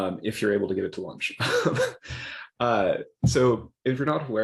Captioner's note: laughs